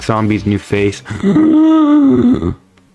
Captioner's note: inhales Oxygen